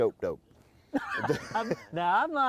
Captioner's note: laughs